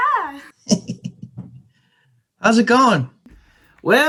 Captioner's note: giggle